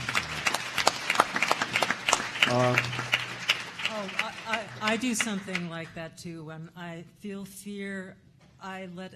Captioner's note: applause